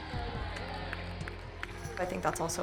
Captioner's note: cheering